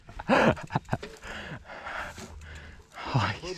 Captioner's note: chuckling